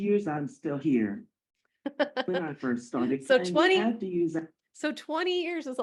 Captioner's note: laughing